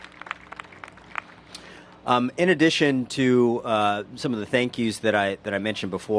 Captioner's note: applause